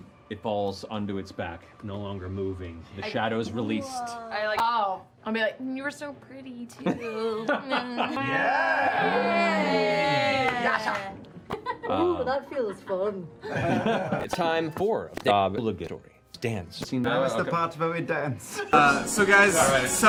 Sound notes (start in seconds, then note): 8.2 cheering